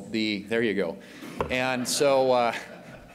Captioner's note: laughter